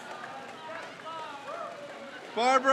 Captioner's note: crowd cheers